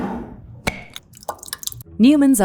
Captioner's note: jar cap clacking; jar scraping; sauce sloshing